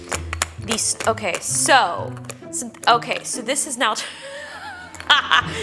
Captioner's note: laughs